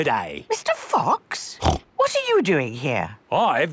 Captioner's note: snorts